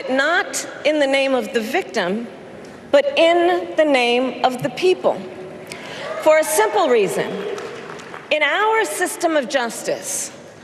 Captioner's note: applause